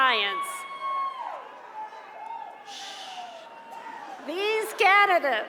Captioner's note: cheers and applause